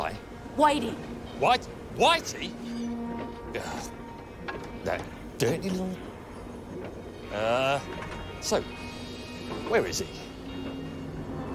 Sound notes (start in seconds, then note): 2.2 groans